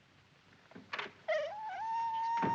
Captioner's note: door closing; whining